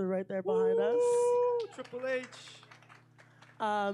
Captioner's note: cheering